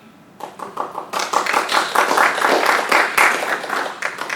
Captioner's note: audience applauds